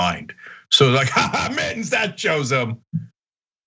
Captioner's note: laugh